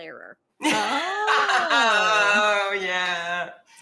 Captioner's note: women laughing